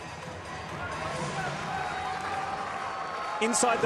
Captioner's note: crowd cheering